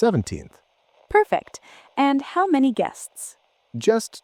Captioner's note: receptionist voice